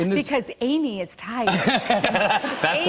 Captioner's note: laughter